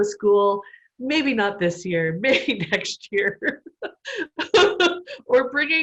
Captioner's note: laughter